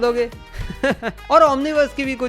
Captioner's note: chuckles